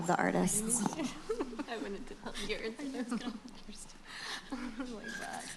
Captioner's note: chatter and laughter